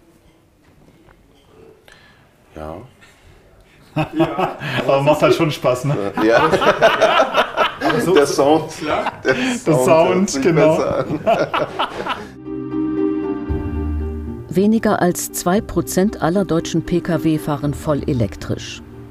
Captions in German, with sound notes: Ja ... (lacht:) Aber macht halt schon Spaß, ne? Ja. (Lachen) Der Sound. Der Sound, genau. (Lachen) (Nachdenkliche Musik) Weniger als zwei Prozent aller deutschen Pkw fahren voll elektrisch.